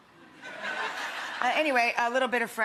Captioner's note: audience laughing